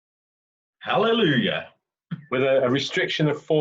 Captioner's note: chuckles